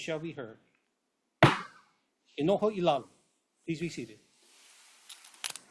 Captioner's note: gavel bangs once